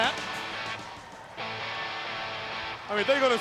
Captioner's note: crowd cheering